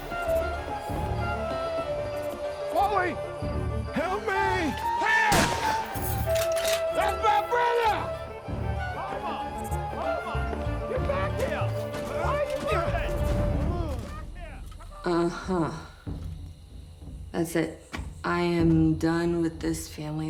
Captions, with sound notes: (hypnotic flute music) Wally! Help me! - Hey you! (gun bangs) That's my brother! Homer! Homer! Come back here! Where are you going? Come back here! - Uh-huh. That's it. I am done with this family.